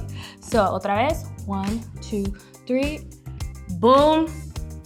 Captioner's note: speaking foreign language